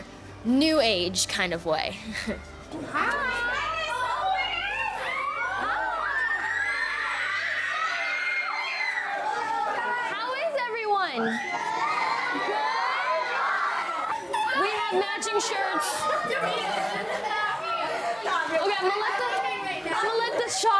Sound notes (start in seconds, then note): 6.9 children squealing and cheering; 15.1 children squealing and cheering; 19.2 children squealing and cheering